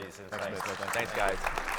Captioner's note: audience applauding